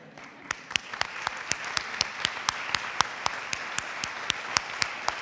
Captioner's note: audience applauding